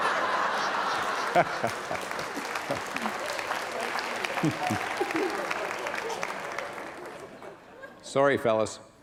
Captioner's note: laughter